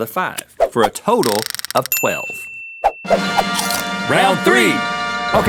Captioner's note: bell rings